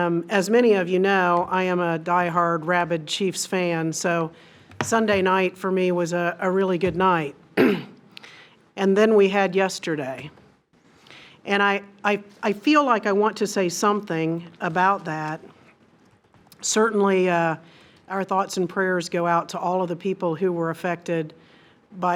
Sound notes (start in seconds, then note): 7.6 clears throat